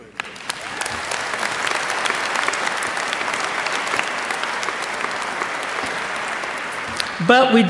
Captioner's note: applause